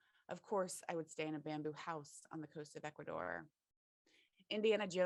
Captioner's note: none